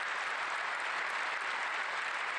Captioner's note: applause